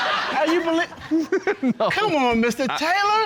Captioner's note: laughing